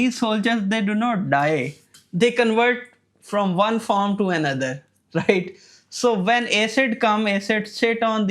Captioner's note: chuckles